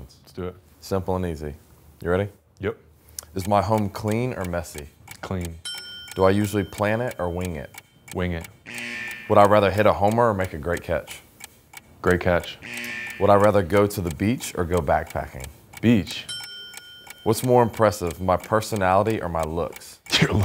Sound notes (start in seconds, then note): 5.6 bell dinging; 8.6 buzzer blaring; 12.4 buzzer blaring; 16.1 bell dinging